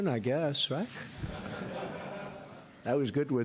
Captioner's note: laughter